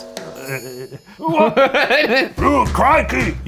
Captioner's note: laughs